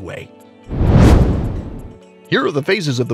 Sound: meteor whooshes

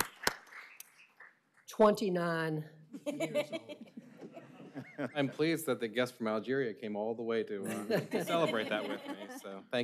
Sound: applause

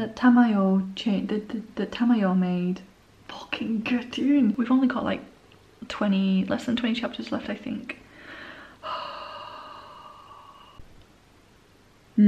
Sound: worried sigh

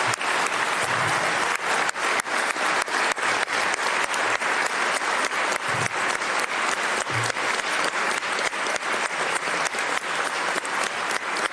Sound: applause

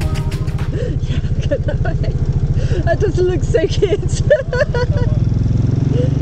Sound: laughing

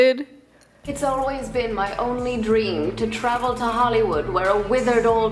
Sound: proper British voice

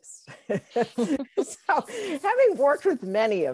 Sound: laughter

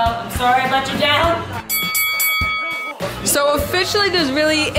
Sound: ringing sound

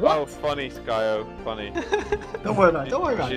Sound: laughs

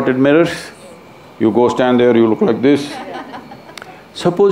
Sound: laughter

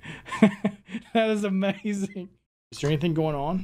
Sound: laughing

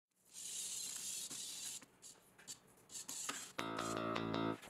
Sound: robotic whirring noises

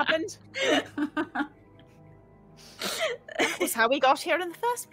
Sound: continues laughing

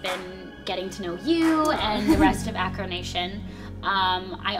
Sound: giggles

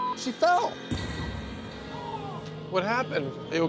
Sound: groans

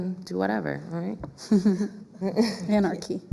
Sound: laughs

